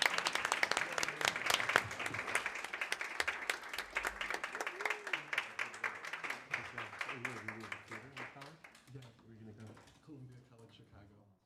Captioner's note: applause